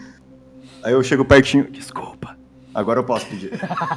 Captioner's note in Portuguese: sussurrando